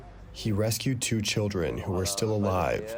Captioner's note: through translator